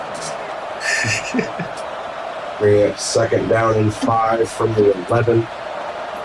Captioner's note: laughing